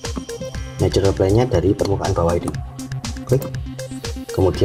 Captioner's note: click